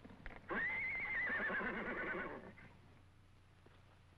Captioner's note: horse whinnying